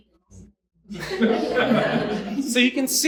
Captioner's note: audience chatter and laughter